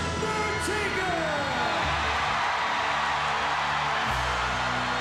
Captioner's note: audience cheering